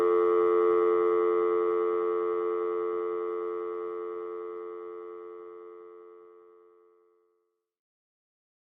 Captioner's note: dial tone